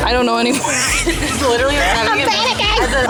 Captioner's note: wheezing